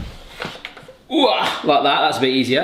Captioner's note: groans